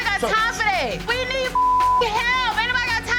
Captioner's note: beep